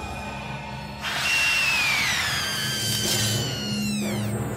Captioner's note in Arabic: صراخ